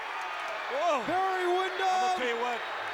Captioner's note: crowd boos